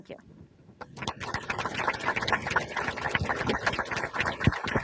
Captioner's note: audience applauds